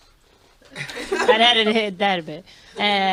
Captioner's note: everyone laughs